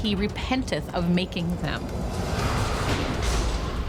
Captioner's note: thunderclap